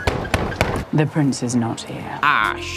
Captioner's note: knocking